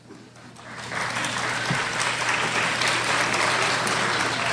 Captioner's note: crowd applauds